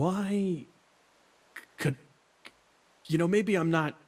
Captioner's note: not-The-Brightest noises